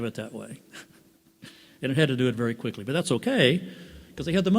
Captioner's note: laughs